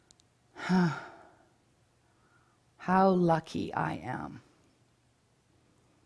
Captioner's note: sighs